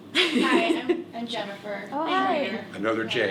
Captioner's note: laughs